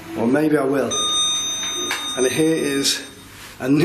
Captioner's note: lift beeps